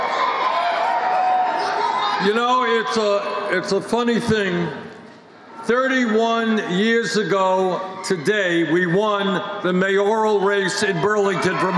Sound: cheers and applause

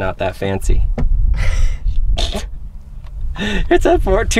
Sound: laughing

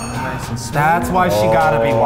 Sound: men gasping

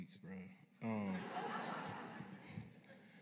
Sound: laughter

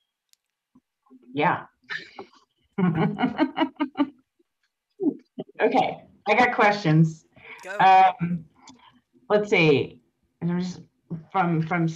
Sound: chuckles

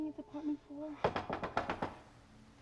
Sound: <i> knocking continues</i>

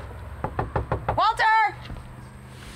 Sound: knocking

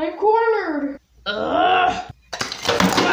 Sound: growls

